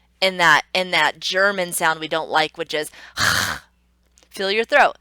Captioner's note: throaty "H"